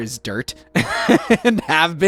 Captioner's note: laughs